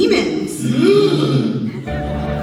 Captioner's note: the boys all gasp